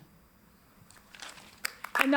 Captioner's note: applause